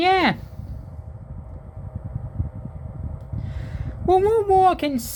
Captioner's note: fan noise